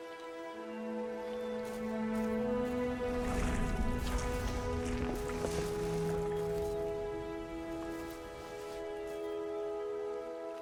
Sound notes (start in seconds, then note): 3.4 feet dragging; 3.4 water splashing